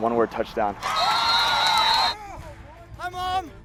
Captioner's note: crowd cheers